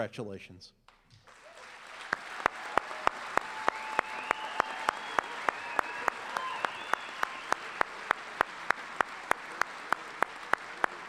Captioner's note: applause